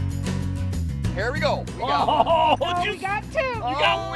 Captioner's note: shouting